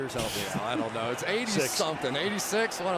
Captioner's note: laughs